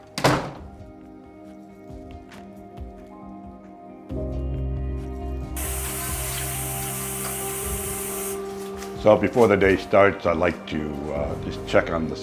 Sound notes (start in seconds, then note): 0.0 door closes; 5.6 water flowing